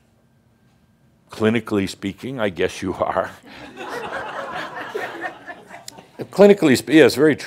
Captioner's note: laughter